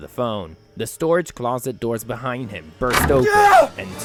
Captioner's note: the storage closet doors behind him burst open